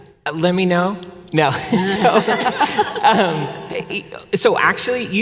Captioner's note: panelists laughing